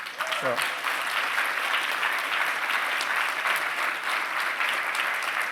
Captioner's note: applause